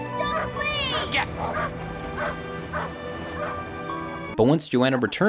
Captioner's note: dog barking